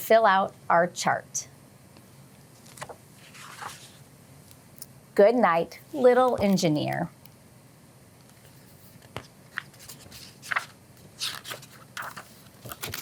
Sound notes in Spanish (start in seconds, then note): 2.5 barajando papeles